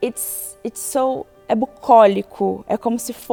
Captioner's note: speaks portuguese